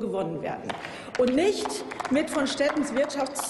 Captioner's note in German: Applaus